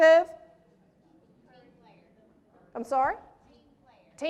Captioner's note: crowd speaks